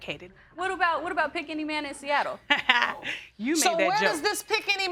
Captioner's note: laughs